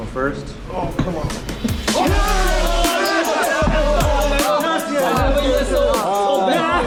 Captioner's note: team cheers